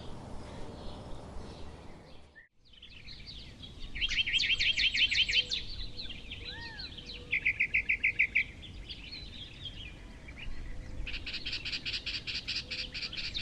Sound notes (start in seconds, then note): 1.9 birds chirping